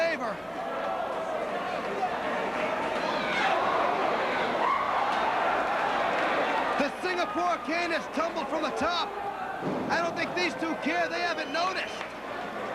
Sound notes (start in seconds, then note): 1.7 crowd cheering